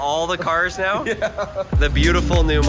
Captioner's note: laughing